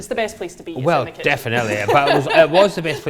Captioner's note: laughs